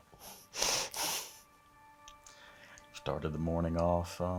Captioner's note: laughing